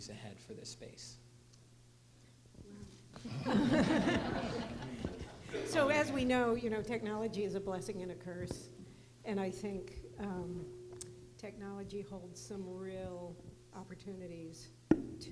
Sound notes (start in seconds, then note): 3.2 laughter